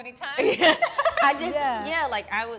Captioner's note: laughs